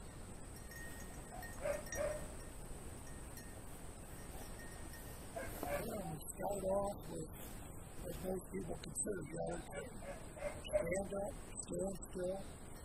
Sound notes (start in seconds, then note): 2.0 dog barking in the distance